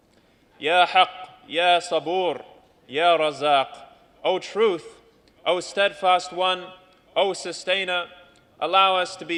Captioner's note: non-english speech